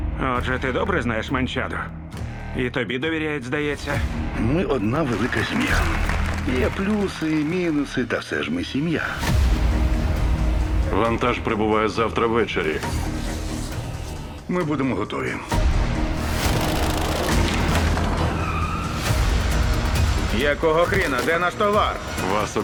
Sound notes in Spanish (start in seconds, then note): 4.9 aplausos